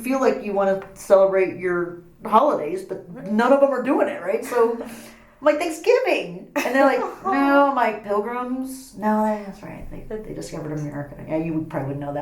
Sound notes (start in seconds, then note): 6.5 laughs